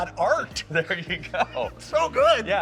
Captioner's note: laughs